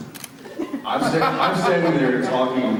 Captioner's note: Jared laughs; Jensen laughs